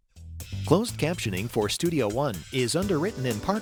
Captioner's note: voiceover